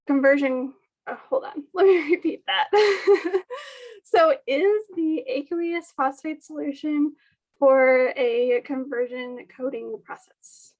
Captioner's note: laugh